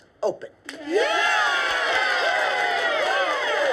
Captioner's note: cheers